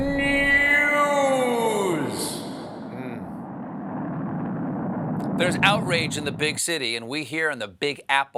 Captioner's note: echo